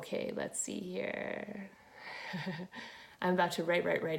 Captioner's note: chuckle